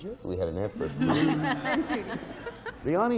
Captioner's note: audience boos; mockingly